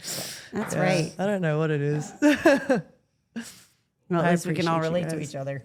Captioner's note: laughs